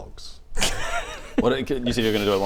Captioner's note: unhelpful laughter